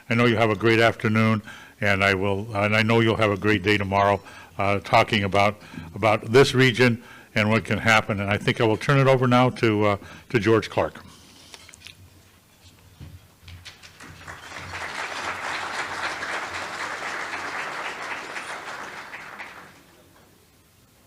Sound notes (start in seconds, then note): 13.6 applause